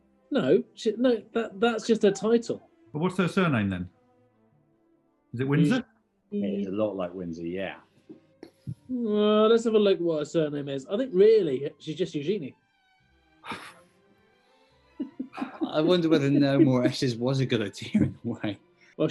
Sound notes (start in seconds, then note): 13.4 scoffs; 15.0 giggling